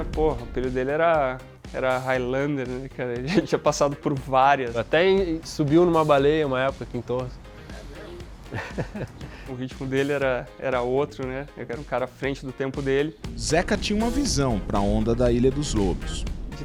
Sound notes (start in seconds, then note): 8.5 laughs